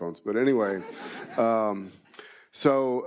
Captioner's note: attendees laughing